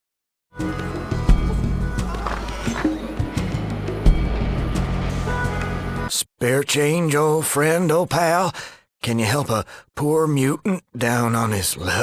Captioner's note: cough